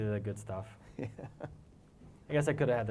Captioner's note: laugh